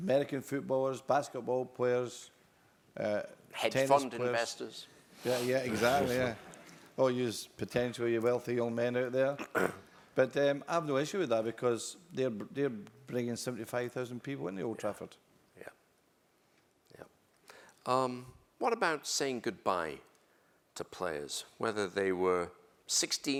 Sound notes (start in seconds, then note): 5.2 laugh